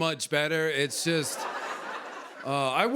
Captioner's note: laughter